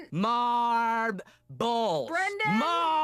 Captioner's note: sounds out word